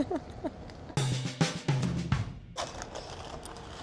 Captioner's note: giggles